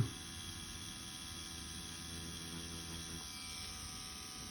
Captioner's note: machine whirring